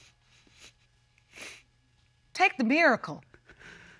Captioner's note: sniffles